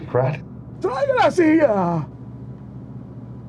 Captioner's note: Berenger speaking spanish